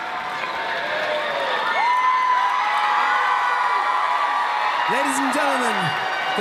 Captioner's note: cheering